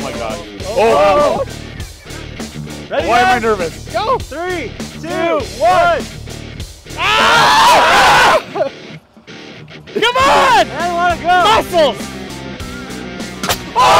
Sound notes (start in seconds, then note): 6.9 all screaming